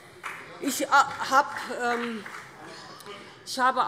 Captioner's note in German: Vereinzelter Beifall BÜNDNIS 90/DIE GRÜNEN